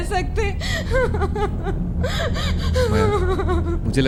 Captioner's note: woman crying